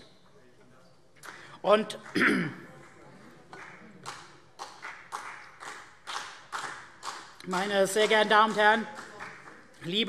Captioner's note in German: Vereinzelter Beifall CDU und BÜNDNIS 90/DIE GRÜNEN